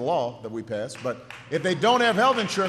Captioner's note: applause